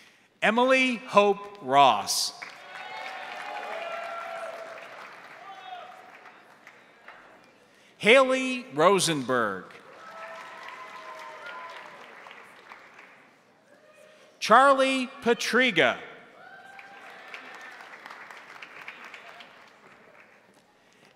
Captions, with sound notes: Emily Hope Ross. (crowd applauding) (crowd cheering) Haley Rosenberg. (crowd applauding) (crowd cheering) Charlie Patriga. (crowd applauding) (crowd cheering)